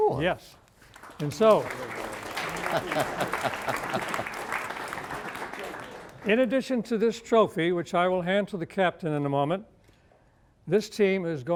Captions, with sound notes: -And here's another one. -Yes. (applause) In addition to this trophy which I will hand to the captain in a moment,